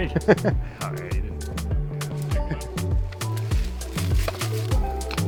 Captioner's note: male Voice